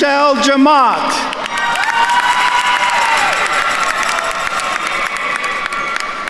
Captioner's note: attendees cheering and applauding